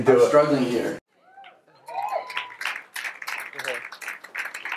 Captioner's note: crowd applause